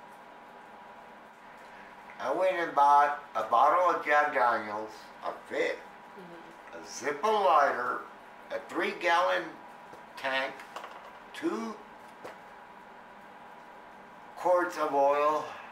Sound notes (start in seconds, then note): none